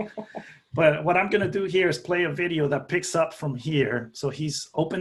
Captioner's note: laughter